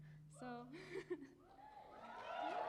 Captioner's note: cheering and applause